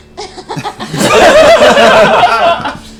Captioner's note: all laugh